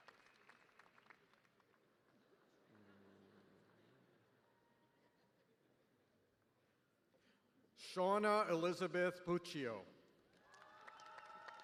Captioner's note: applause